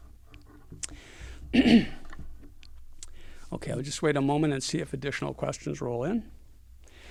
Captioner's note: cough